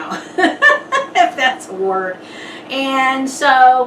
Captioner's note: laughs